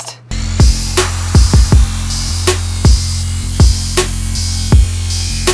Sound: electric whirring; hip-hop music

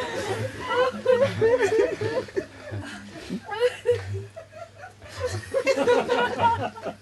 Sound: laughter continues

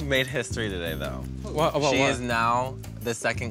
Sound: voiceover

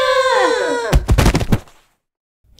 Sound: thud!

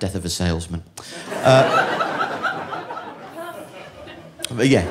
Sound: audience laughing

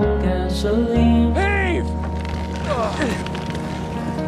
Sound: ropes creaking, grunts of exertion

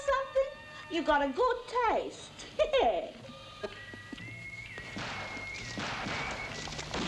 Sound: chuckles

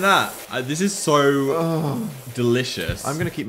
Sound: moans

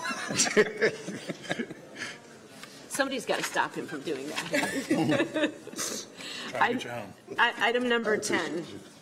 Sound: laughter

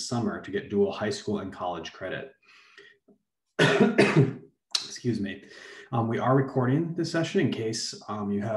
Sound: coughs

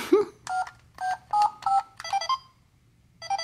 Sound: voiceover laughs; beeping

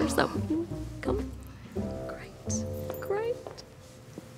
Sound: none

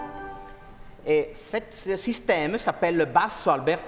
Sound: speaking french

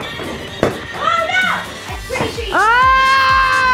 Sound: talking in background; screams

